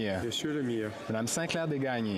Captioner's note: speaking French